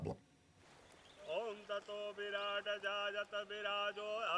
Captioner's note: man chanting